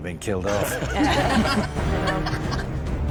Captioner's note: all laughing